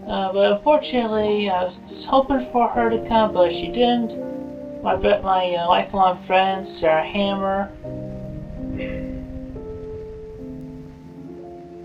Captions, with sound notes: Uh, but unfortunately I was hoping for her to come but she didn't, my lifelong friend, Sarah Hammer. [sigh]